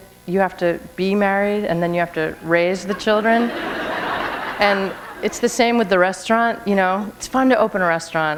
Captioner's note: laughter